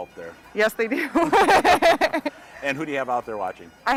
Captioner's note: both laughing